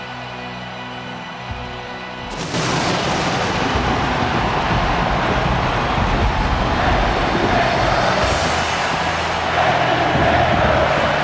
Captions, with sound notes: (lightning crashing) (audience cheering) Thank you, Taker. Thank you, Taker.